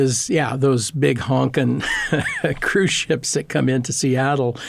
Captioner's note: laughing